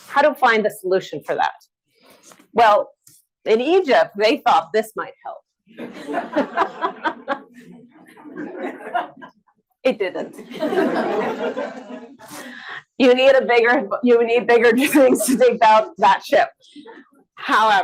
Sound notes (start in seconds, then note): 5.7 audience laughs; 11.1 audience laughs